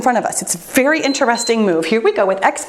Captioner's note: timer beeps